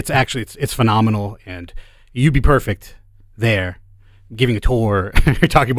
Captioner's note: chuckles